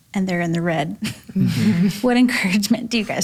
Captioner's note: chuckles